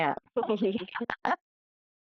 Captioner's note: laughing